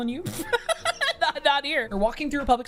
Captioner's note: laughs